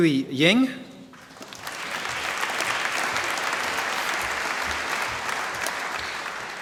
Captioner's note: applause